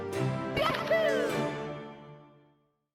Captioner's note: Mario sounds